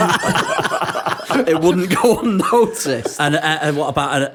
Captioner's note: laughter